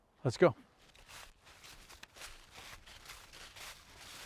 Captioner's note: leaves crunching